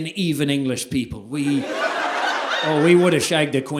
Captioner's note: audience laughing